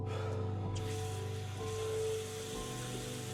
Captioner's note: water running